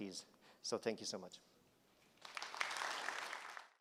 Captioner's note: applause